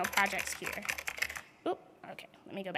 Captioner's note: keyboard typing